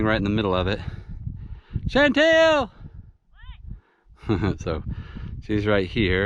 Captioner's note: yelling